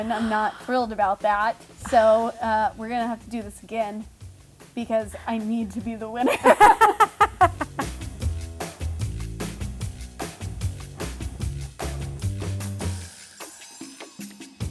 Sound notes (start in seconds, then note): 6.2 laughing; 7.9 upbeat music